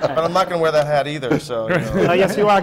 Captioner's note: laughter